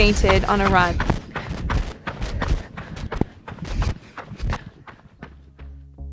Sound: sound of heavy breathing and running breaking up

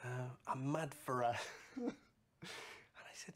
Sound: chuckles

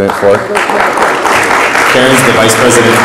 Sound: audience applauds

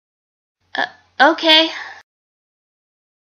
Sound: none

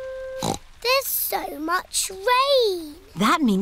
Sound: snorts

